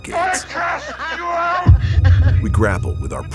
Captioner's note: evil laughter